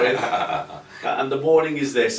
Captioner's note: chuckles lightly